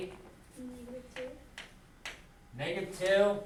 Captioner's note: voiceover